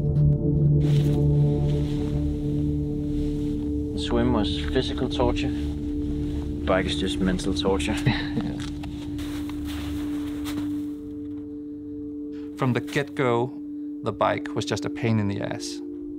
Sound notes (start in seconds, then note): 8.0 chuckles; 8.9 snow squelching